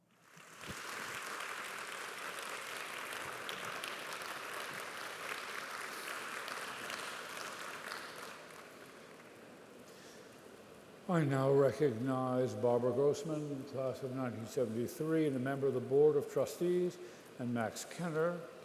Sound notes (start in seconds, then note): 2.9 applause